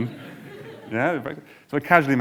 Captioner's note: audience laughing